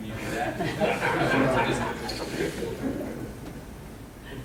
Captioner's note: laughing